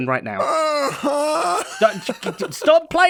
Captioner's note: laughs